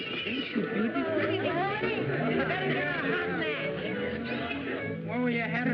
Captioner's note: chatter